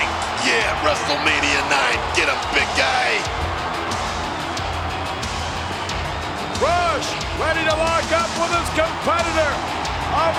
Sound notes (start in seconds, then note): 3.2 audience cheers; 3.2 upbeat music continues